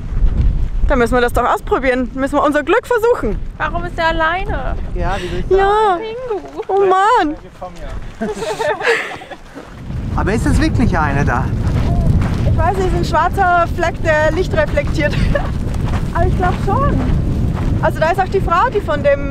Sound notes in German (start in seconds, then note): 8.0 Lachen